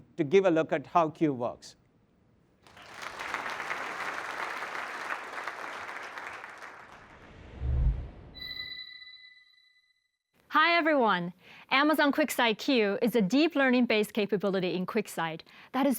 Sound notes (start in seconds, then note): 2.6 applause